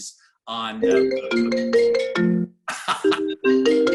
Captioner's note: phone ringing